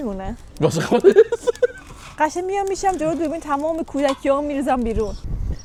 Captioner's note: laughs